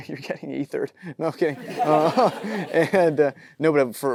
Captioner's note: audience laughing